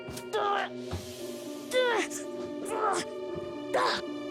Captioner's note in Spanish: Gruñidos